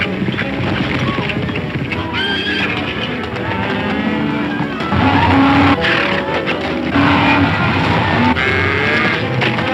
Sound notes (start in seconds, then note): 2.0 Silver neighs; 5.0 cows stampeding